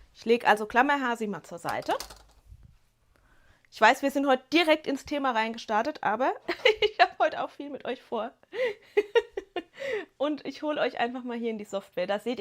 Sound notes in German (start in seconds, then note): 8.6 gelächter